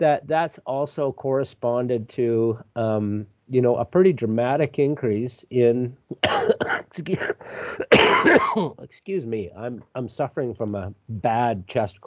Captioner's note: coughs